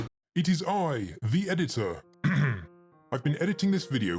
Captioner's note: clears throat